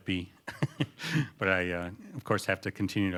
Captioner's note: laughter